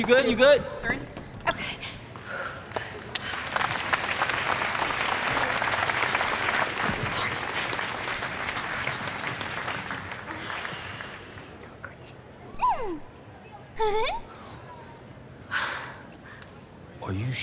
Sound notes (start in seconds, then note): 2.7 crowd applause; 2.9 gasping; 7.2 whispering; 10.9 loud exhaling; 13.7 high-pitched giggling